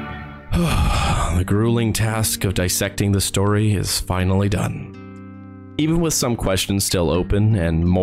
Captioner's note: sighs